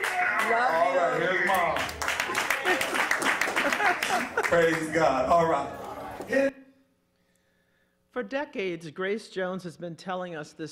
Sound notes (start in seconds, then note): 2.9 congregation applauding